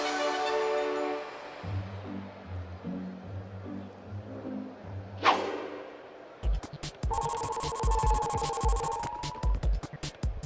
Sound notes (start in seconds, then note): 7.1 electronic pulsing